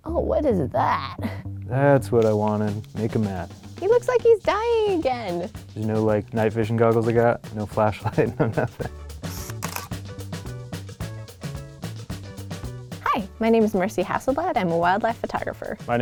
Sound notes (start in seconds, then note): 8.1 laughs; 9.3 camera shutter clicks; 10.9 tropical music